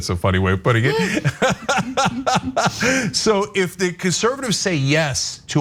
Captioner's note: laugh